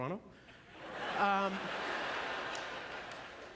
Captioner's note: audience laughter